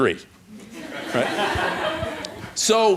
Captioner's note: laughter